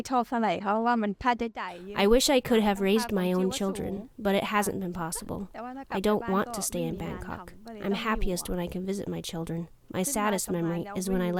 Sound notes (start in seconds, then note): 2.3 through translator